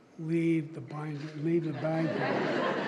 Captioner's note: laughter